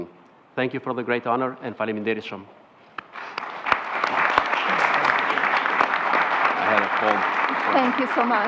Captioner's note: foreign language